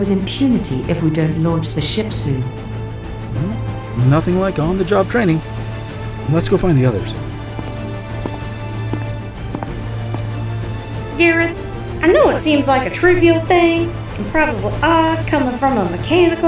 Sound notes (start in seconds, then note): 7.3 receding footsteps